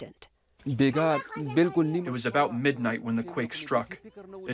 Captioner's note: through translator